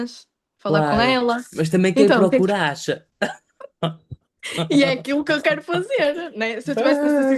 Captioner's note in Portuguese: risadas